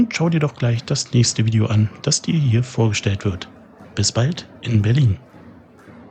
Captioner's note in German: Räuspern